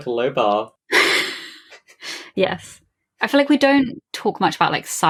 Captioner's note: laughs